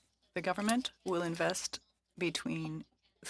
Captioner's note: speaking FRENCH